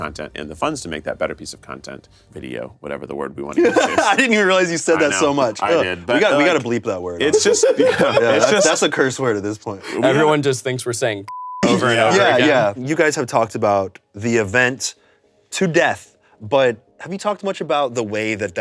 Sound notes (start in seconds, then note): 7.3 everyone laughs; 11.3 beep